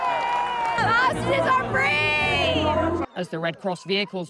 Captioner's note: cheering